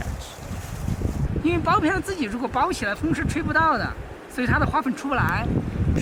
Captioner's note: speaking in foreign language